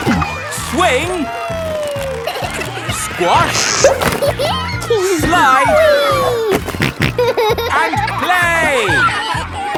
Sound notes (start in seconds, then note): 3.4 giggles; 6.4 snorting